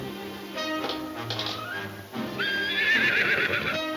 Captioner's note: horse whinnying